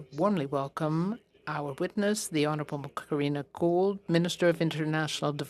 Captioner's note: speaking French